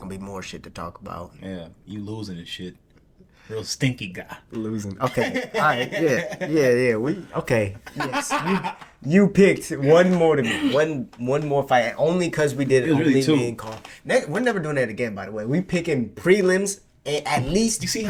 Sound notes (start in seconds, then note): 5.0 laughing